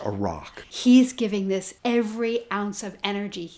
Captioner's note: voiceover